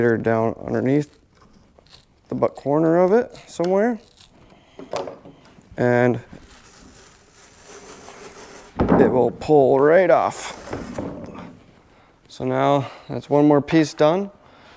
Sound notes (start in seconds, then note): 0.6 knife shuffling; 6.8 material swishing; 10.7 boat part shuffling